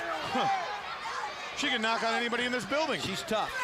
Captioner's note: crowd chatter